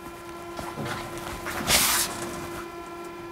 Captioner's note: the stove hums